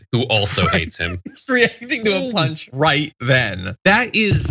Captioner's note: laugh